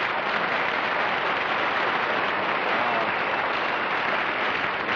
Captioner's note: applause